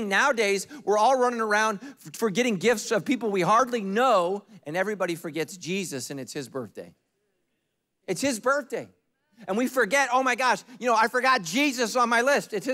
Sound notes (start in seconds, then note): none